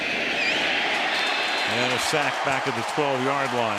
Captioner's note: cheering